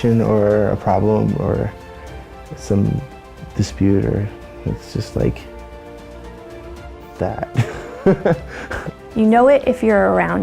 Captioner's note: laughter